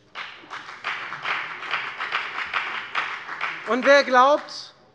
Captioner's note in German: Beifall bei der FDP